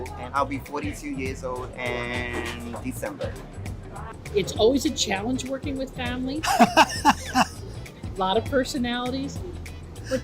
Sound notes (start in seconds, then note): 6.4 laughs